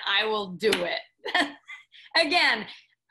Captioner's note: both laughing